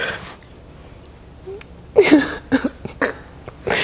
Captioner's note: laughing